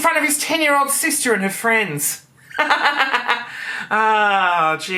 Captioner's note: laughing